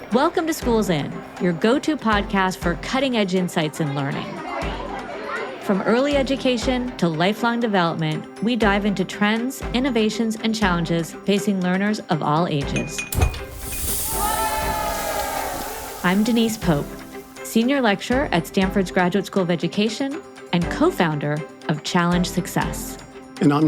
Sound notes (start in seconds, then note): 3.7 students chattering; 13.2 soda fizzing; 13.7 students cheering